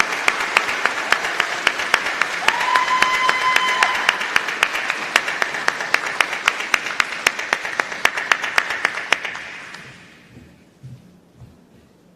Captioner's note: applause